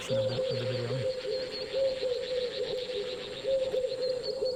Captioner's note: chirping